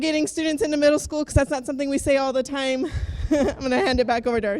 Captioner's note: laughs